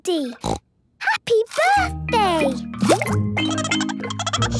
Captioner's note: snorting; Goldie giggling